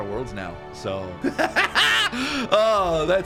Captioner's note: laughs excitedly